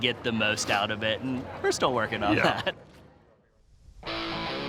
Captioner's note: laughs; heavy metal music